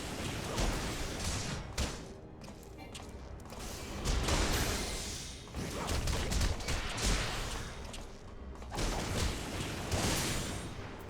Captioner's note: gunshots